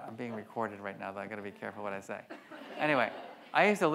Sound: audience laughs

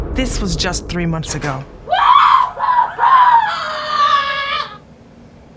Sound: rage scream

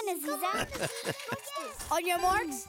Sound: laughing evilly

